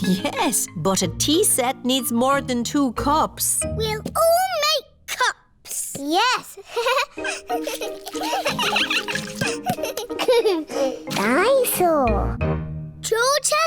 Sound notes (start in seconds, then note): 6.6 giggles; 6.7 all giggling